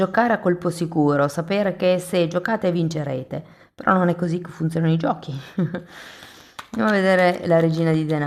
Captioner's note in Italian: risate